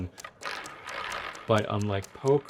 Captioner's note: roulette ball rolling